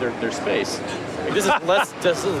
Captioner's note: laughs